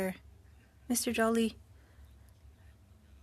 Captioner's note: speaking french